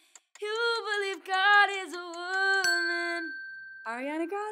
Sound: bell dinging

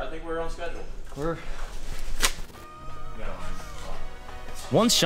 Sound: audibly removes glove

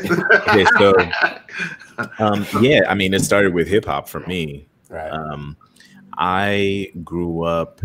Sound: laughter

